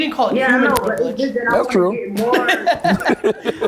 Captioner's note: laughs